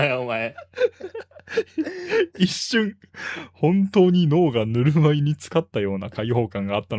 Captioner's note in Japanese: 笑い